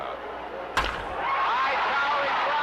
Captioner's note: bat cracks; audience cheering